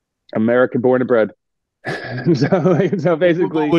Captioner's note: laughing